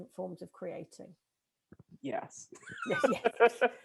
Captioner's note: laughing